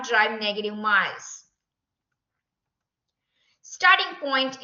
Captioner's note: silence